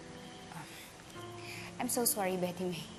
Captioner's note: sighs